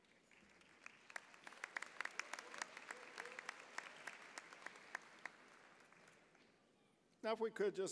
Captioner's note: applause